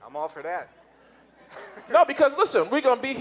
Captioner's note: audience laughing